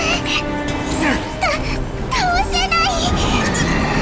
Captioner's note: sob